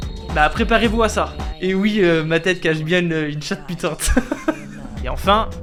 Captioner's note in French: Rire